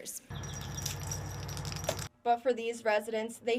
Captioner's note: toy tinkling